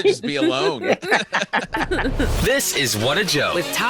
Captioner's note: all laughing